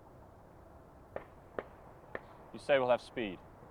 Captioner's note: gunshots firing in distance